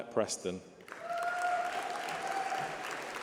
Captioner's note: applause